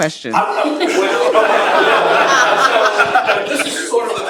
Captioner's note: laughter